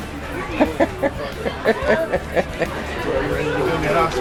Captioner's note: laughter